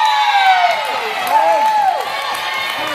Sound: cheers

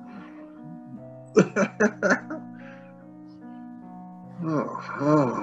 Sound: laughter; sigh

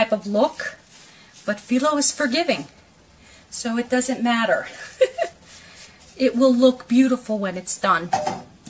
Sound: giggle

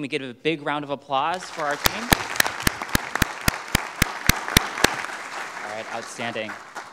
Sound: audience clapping

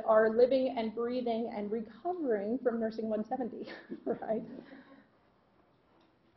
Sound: laughter

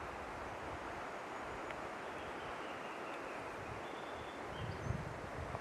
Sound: birds chirping

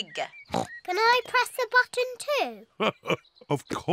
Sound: oinks; laughs

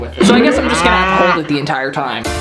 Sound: cow mooing sound

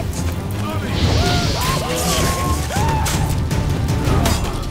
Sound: flames whoosh; scream

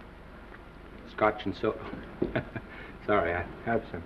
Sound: Norman chuckles

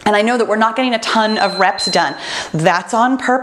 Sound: timer beeps

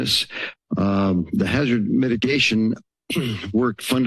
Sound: clearing throat

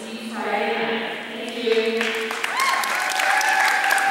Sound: applause

